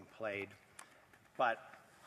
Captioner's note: speaking French